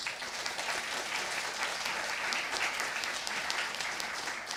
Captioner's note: audience applauding